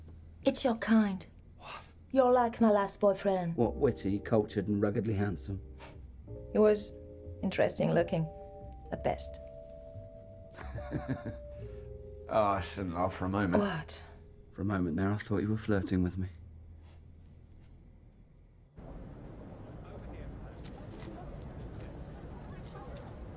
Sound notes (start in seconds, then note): 5.5 scoffing; 10.6 laughing